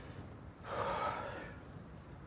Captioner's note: sighs